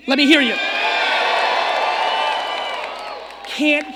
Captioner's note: audience cheering